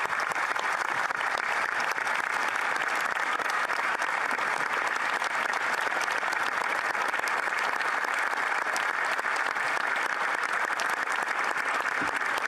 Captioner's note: applause